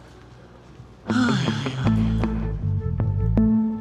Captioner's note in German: Seufzend